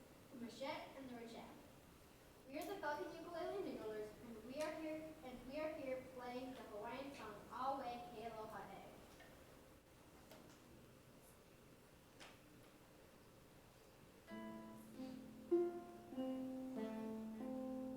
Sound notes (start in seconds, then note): 8.4 speaks in foreign language; 14.3 gentle ukulele music